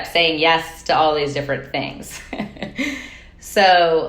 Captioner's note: chuckling